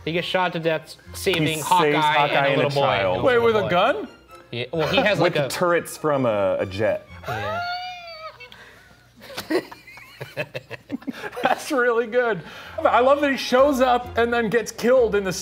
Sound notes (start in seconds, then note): 7.6 chuckling